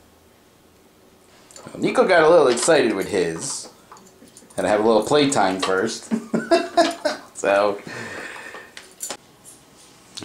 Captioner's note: laughing